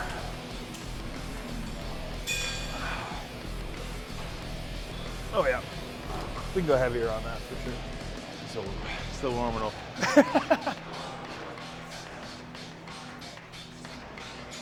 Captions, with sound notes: (weights clinking) Oh, yeah. We can go heavier on that for sure. Still warming up. (Ethan laughing) (upbeat music)